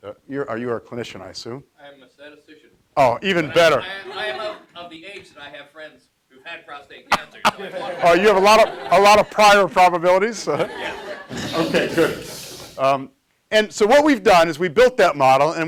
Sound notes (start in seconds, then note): 7.1 audience laughs